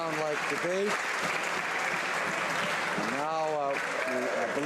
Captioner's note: some Applause